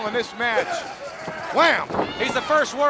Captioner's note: fence rustling